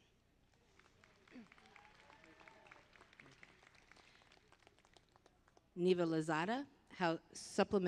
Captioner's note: applause